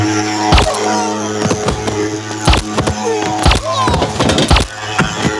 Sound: silenced gunshots

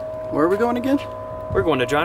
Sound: voiceover

